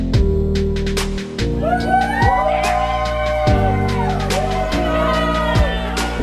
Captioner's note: all cheering